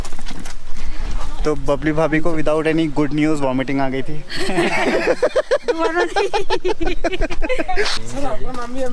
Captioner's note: laughs